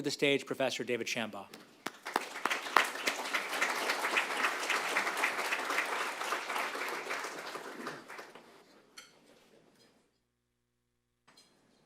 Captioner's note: applause